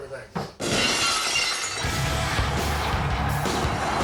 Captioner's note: glass shatters; audience cheers